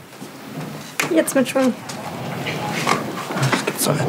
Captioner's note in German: murmelnd